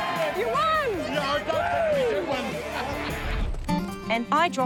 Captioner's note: laughs